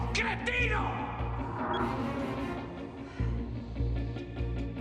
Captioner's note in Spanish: Bip